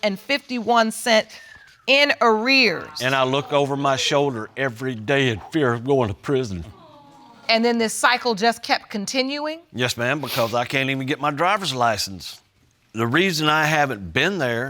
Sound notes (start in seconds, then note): 6.9 audience sighs in sympathy